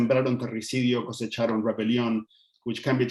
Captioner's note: speaking Spanish